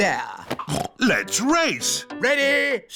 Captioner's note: snorts